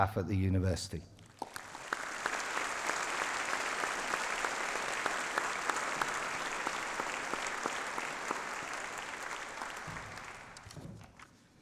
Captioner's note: applause